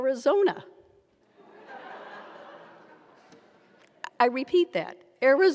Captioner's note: audience laughs